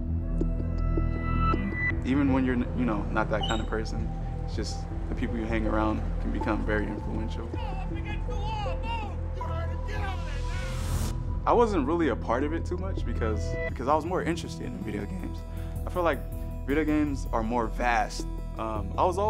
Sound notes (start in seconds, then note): 7.6 policeman's voice; 9.7 shouting